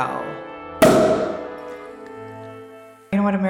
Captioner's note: champagne cork pops